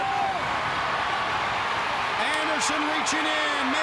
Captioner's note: crowd cheering